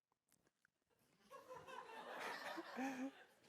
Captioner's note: laughter